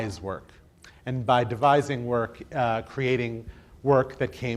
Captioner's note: none